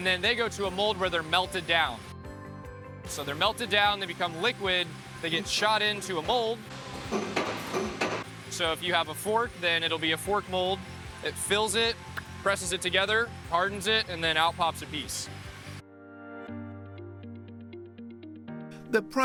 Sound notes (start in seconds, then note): 7.1 machine thudding; 16.5 soft mellow music